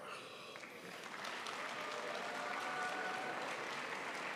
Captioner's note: crowd applauds